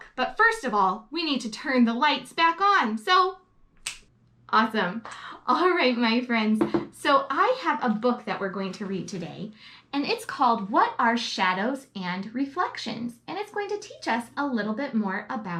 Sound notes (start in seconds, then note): 3.8 snaps